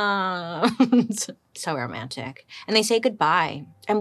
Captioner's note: laughs